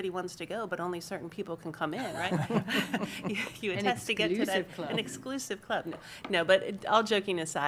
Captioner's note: laughter